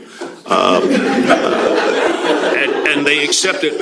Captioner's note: laughter